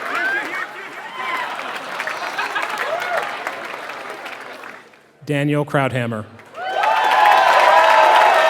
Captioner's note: applause; applause